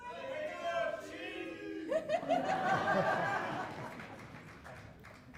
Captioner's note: applause